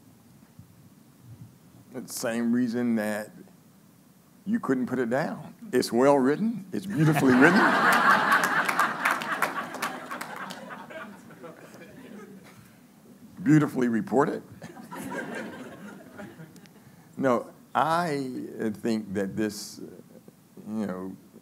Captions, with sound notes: - For the same reason that you couldn't put it down. It's well-written, it's beautifully written. (laughing) Beautifully reported. (laughing) No, I think that this, you know,